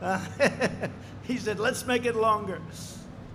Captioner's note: laughs